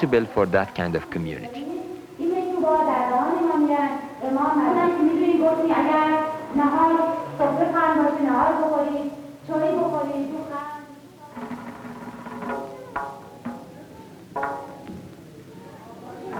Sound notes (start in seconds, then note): 2.6 non-English speech